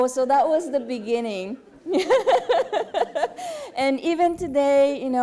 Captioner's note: laughter